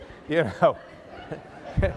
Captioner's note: laughter